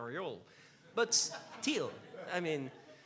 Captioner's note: laughs